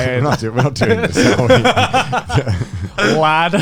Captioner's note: laughs